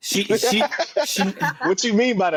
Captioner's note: laughter